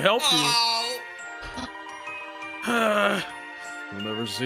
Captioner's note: sighs